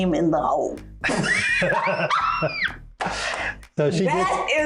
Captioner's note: laughing